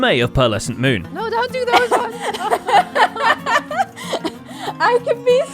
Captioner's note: laughs